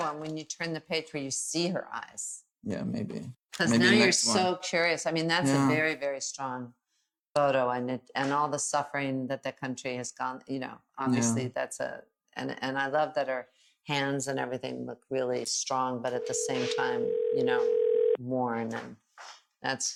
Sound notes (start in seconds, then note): 16.1 dial tone ringing